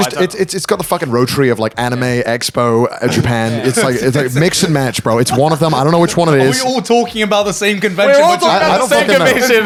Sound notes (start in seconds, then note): 5.0 laughing